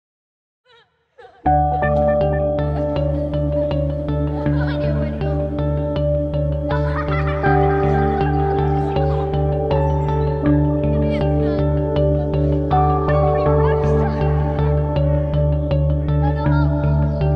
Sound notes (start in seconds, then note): 0.9 peaceful ambient music; 1.1 children chuckling